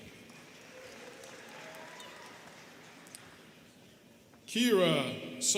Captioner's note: students clapping